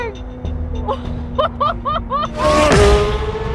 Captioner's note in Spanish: laughing